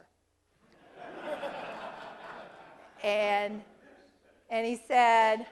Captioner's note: laugh